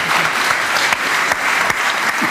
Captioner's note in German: Applaus